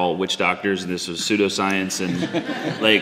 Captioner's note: audience laughs